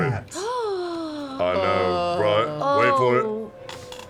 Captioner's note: gasps; laughs